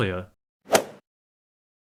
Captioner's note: swoosh